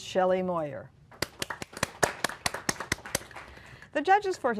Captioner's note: applause